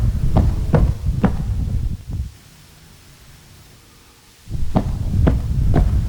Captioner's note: footsteps